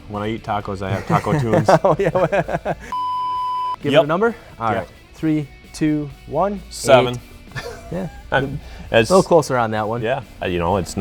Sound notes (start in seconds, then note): 0.9 laughs; 2.9 beep